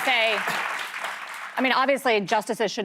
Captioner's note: applause